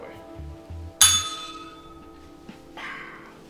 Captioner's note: bell rings